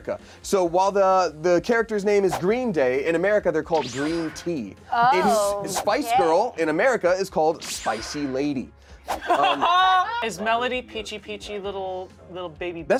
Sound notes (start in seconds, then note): 9.2 laughs